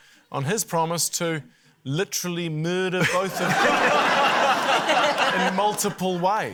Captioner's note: laughter